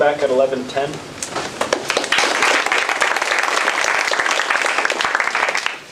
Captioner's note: applause